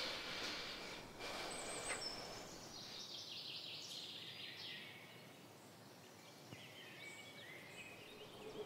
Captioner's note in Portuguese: pássaros cantando